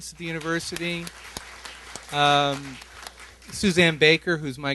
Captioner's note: applause